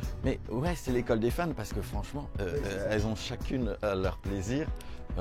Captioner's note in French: none